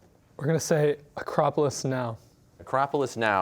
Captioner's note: none